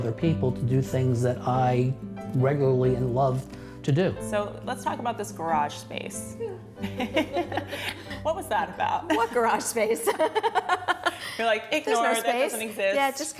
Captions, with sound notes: people to do things that I regularly love to do. So let's talk about this garage space. (Laughter). What was that about? What garage space. (Laughter). Your like, ignore it. It doesn't exist.